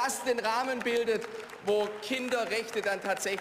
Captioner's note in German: Beifall